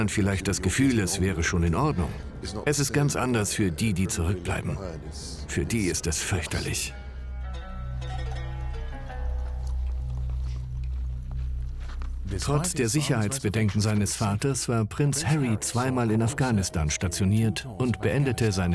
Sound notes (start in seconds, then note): 7.3 slow string music; 12.2 voiceover